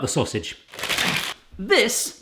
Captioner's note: plastic rustling